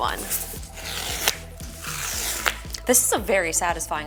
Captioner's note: packaging tears